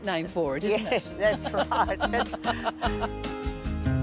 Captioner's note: laughs